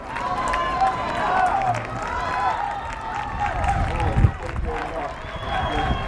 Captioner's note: crowd cheering and clapping